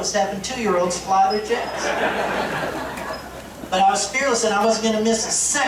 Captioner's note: laughter